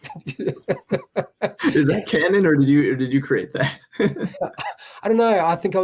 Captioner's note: laughs